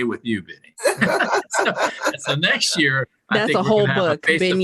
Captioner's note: laughter